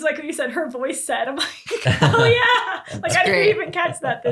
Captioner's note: laughs